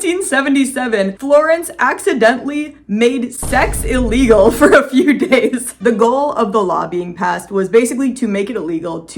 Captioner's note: boom